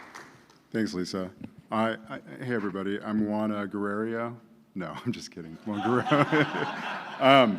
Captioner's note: applause